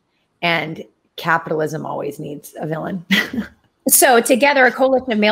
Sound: chuckles

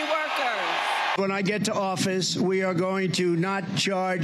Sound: cheering and applause

